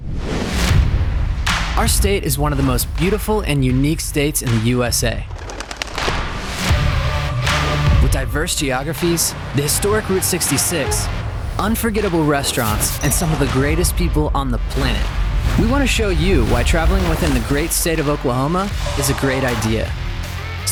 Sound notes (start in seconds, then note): 0.8 upbeat music; 5.1 bird wings flutter; 6.7 music intensifies